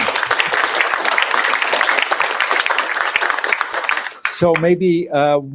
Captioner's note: applause